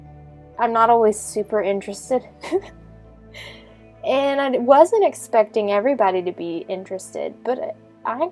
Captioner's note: giggling